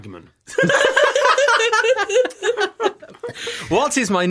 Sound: laughter

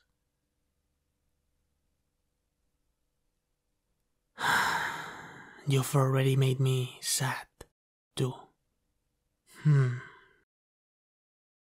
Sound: sigh of resignation

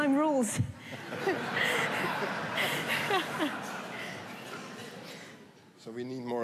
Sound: laughter

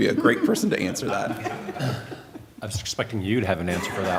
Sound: laughter; laughter

